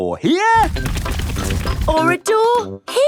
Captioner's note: drilling